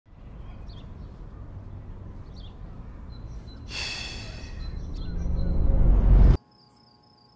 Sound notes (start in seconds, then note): 3.6 man sighing